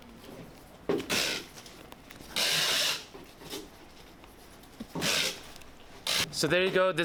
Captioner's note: background sound of packing tape being used